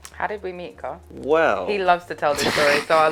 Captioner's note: laughs